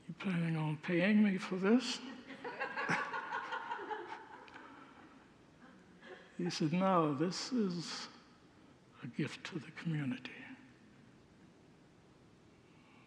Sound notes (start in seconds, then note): 2.0 congregants laugh